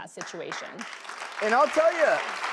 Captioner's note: applause